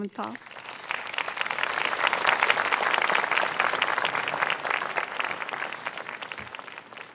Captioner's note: clapping